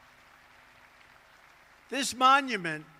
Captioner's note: applause